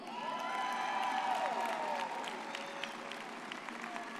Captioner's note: audience cheers